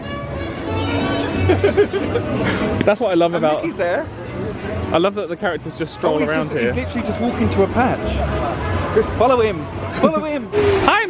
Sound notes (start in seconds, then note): 1.4 laughs; 1.8 upbeat nostalgic music